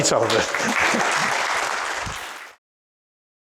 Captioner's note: group clapping